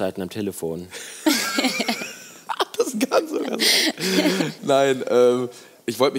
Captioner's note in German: Alle lachen